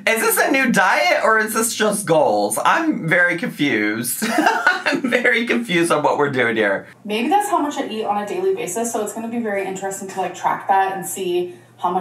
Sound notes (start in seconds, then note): 4.2 giggling